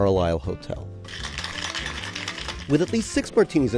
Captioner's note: ice rattling